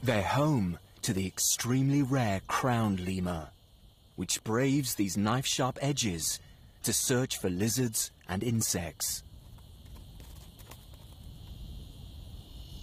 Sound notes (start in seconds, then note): none